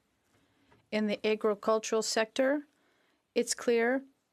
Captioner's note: speaking French